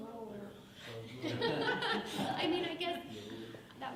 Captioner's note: laughing